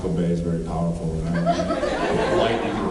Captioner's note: laughs